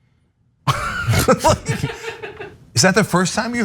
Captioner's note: laugh